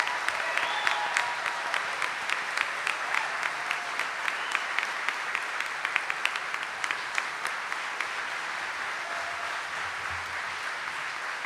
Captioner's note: audience cheering and applauding